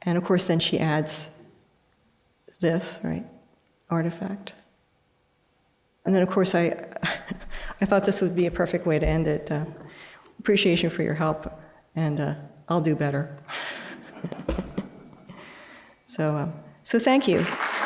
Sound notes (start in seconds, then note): 13.6 laughter; 17.2 applause